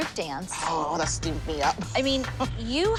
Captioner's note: laughs